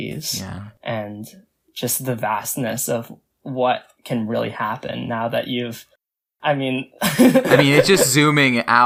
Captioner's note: laughs